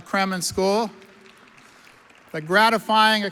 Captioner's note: audience applauds